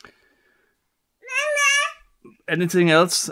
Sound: baby shouting

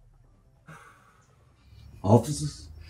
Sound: smoke blowing

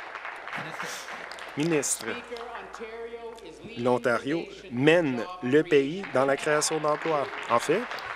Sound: applause

